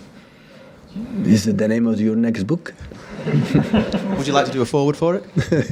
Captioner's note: laughs